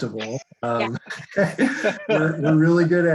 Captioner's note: all laugh